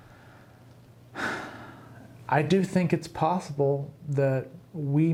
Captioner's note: sighs